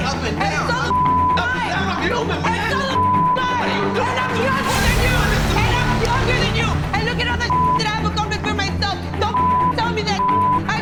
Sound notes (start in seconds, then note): 0.7 beep; 2.9 beep; 4.0 couple arguing; 5.4 beep